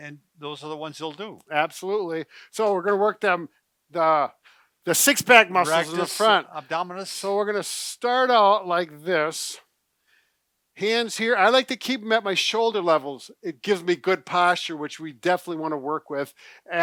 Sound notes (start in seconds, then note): none